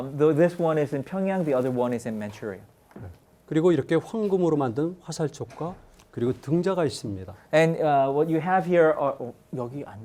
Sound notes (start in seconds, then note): 3.6 speaking in Korean